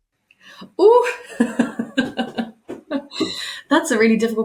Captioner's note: laughing